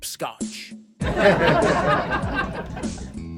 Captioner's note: laughter